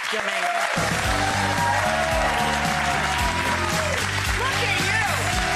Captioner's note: audience applauds